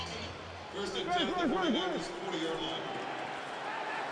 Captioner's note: pa announcement